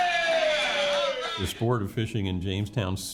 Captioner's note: crowd cheers